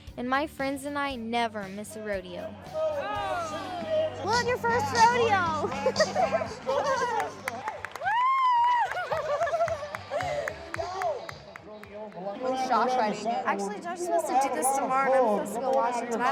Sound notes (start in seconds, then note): 5.2 laughing; 8.0 cheering